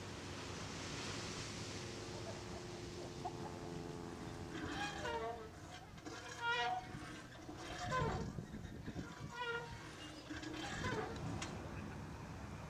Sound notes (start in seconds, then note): 0.0 waves crashing; 1.8 airplane engine roaring; 4.3 swing creaking